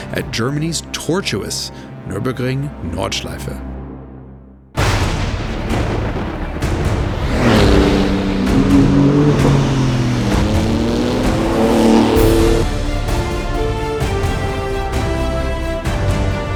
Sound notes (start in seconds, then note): 5.1 thunder rumbles; 6.1 dramatic music; 7.8 engine revving; 12.7 dramatic music continues